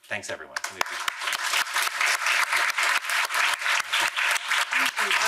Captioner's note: audience applauding